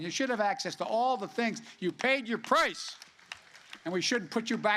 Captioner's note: applause